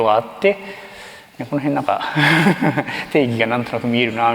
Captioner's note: chuckles